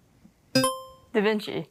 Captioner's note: buzzer chimes